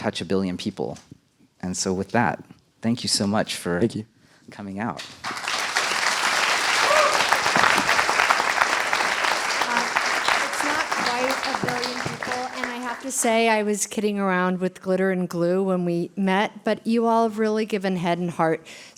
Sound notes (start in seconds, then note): 5.0 applause